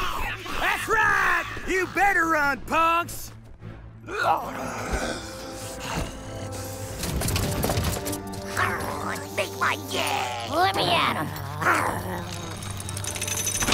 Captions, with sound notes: That's right! You better run, punks! ( snarling ) - ( growling ) - Make my day. Let me at 'em.